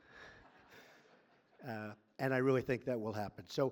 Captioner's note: laughter